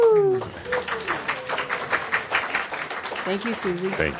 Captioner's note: audience applause